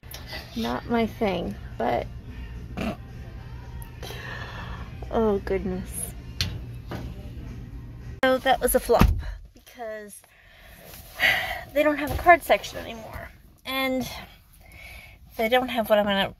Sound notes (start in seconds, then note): 2.3 laughing; 10.9 sigh